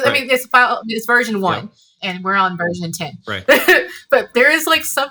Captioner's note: laughs